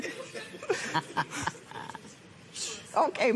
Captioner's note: laughs